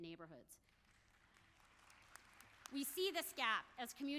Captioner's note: audience applauds